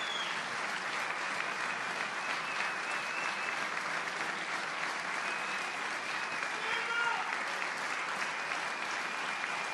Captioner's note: applause